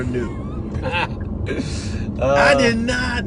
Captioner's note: laughter